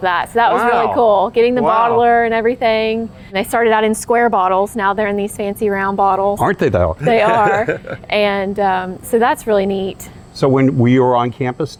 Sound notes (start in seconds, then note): 7.0 laughing